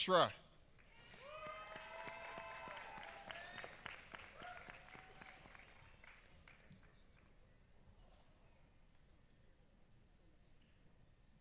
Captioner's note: applause